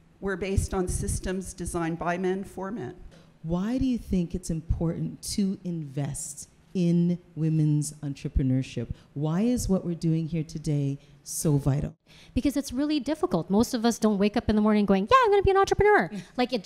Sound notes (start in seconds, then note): none